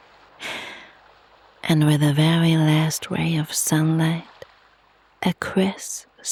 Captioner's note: sighs and gasps